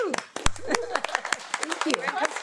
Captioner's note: attendees applaud